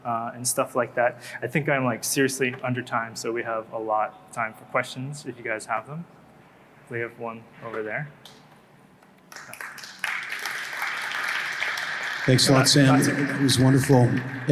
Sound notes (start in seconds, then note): 9.2 applause